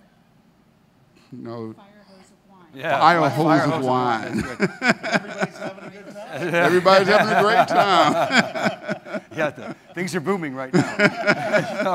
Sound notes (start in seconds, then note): 4.2 laughs; 8.0 laughs